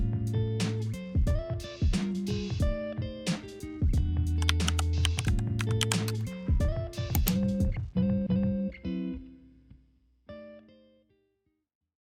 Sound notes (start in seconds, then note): 0.1 light jazz continues; 4.4 typing; 6.8 mouse clicking